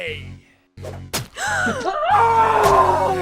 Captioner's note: girls gasps